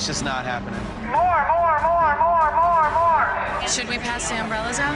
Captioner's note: on bullhorn